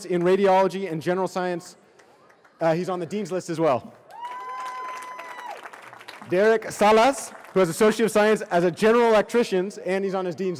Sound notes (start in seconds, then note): 4.0 cheering